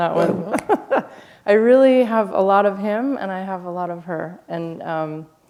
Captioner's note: laughter